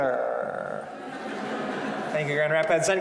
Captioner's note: audience laughing